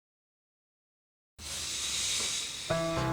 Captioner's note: sighs